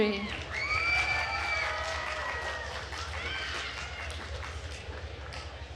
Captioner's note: attendees cheering and applauding